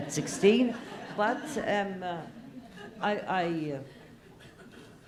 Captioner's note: laugh